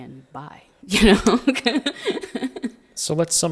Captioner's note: laughing